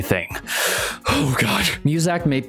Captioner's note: deep inhale